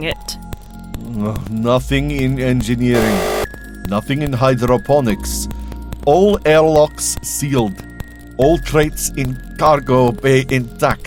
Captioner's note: buzzer